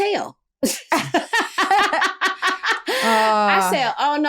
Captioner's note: laughter